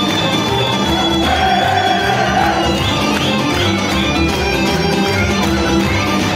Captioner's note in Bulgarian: аплодисменти